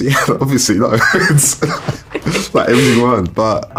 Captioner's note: laughs